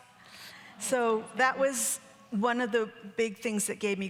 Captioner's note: audience gasping